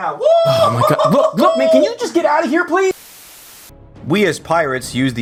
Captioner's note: static